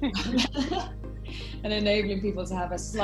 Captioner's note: laughing